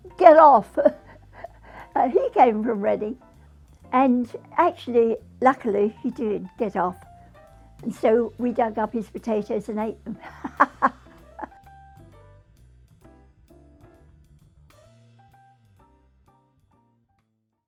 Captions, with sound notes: "Get off!" (laughs) And he came from Reading, and actually, luckily he did get off, and so dug up his potatoes and ate them. (laughs) (melodious music)